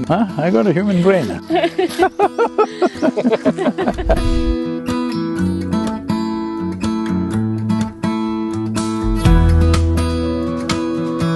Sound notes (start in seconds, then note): 5.3 laughter